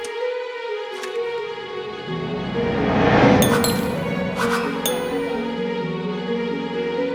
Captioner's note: button clicks; bright music continues; memory images whooshing; bright music continues